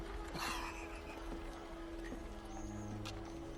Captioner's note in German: Keuchendes Lachen